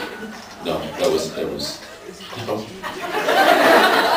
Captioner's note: laughing; laughs